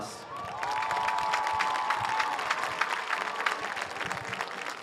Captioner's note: audience cheers